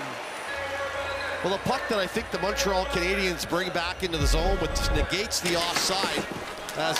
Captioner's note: cheering